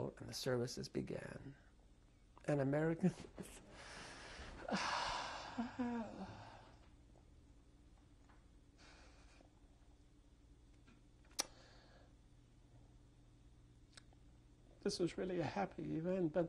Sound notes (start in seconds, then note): 4.5 sob; 4.6 pauses for 10 seconds